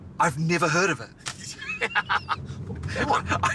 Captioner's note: laughing